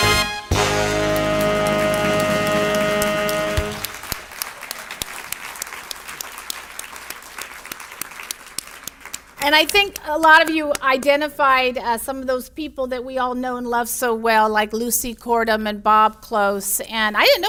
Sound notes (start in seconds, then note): 2.7 audience applauds